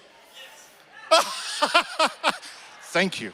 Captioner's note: laughs